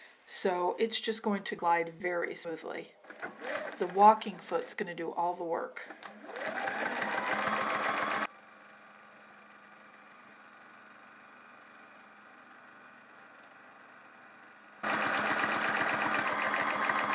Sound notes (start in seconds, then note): 6.3 sound of sewing machine